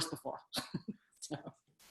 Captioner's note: laughs